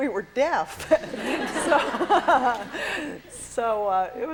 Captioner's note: laughter